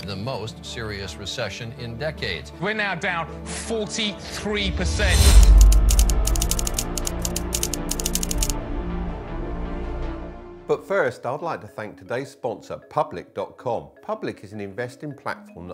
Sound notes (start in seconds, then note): 5.4 dramatic music; 5.5 keys clacking